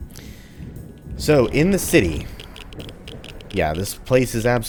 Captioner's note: geiger Counter clicking